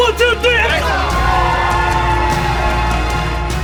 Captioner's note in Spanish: Aplausos